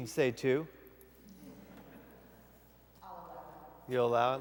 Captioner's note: laughter